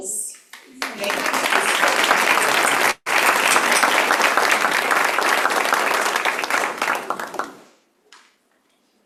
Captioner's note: applause